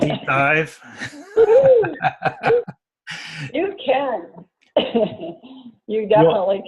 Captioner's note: laugh